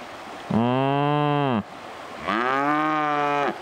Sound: cow mowing

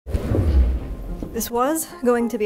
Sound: chair scraping across floor

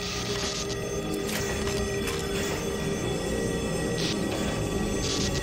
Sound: Dropship engine humming

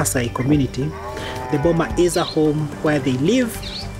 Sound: cattle moo

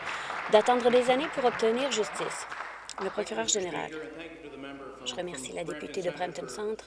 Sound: applause

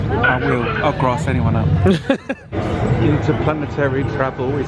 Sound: laughs

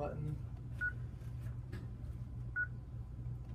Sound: beeping

